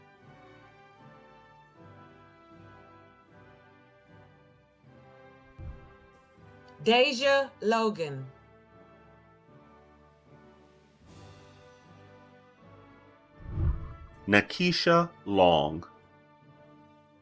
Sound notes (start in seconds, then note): 8.7 celebratory music; 13.4 whooshing